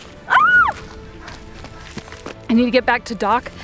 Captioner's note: screams